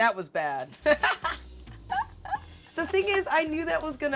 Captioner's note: laughs